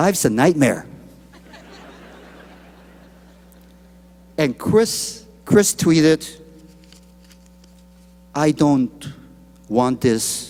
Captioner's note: laughter